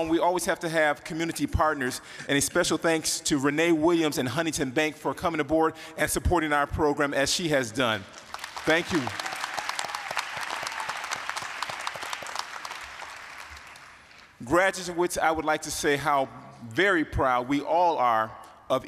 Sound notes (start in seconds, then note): 10.1 applause, cheering